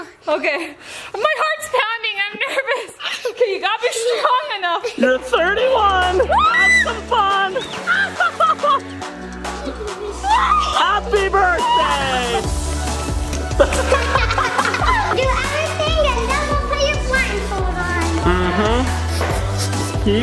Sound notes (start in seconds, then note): 2.9 laughs; 6.2 screams; 6.9 laughing; 9.6 upbeat music; 13.6 laughing; 18.3 snickers